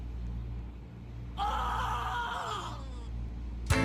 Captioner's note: offscreen screaming